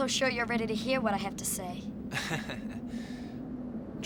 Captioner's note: laughs